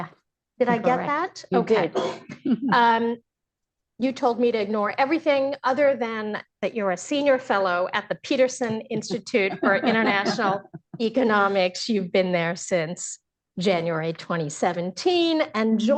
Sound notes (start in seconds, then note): 1.9 laughs; 11.7 laughter